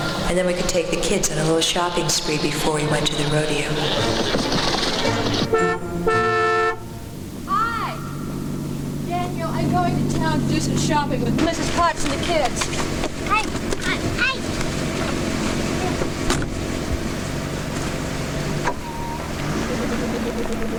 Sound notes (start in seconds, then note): 3.1 horse hooves clopping; 5.4 car horn honking; 16.0 car door thudding; 17.5 car engine revving